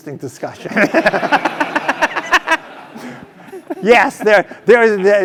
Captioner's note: laugh